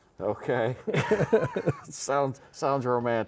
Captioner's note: both laughing